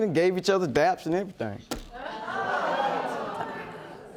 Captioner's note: audience gasping